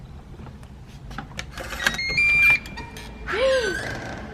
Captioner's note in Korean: 아영 하트 두부의 행복가득한집 열리는 소리